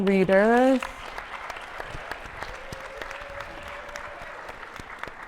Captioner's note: attendees applauding